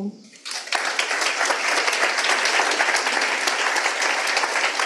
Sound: audience applauding

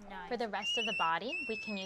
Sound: baby squealing

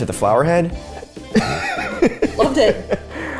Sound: laughing

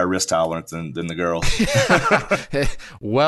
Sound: laughs loudly

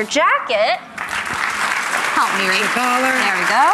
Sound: applause

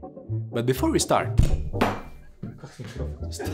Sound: hits the microphone arm

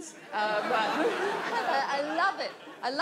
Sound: audience laughs

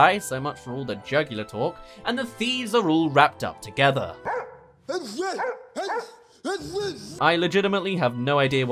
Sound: Jake gibberish

